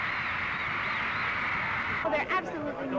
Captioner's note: cheering